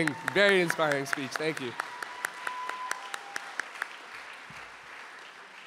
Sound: claps; audience applauding

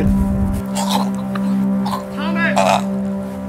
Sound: bleeding gurgling

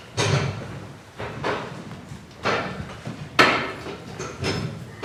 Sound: gavel

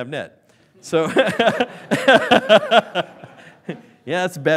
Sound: laughing

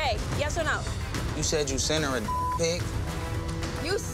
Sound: beep

